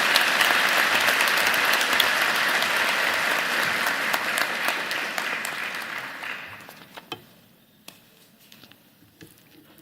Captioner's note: applause